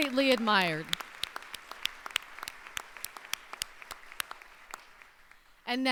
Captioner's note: applause